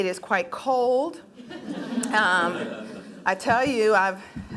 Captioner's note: laughing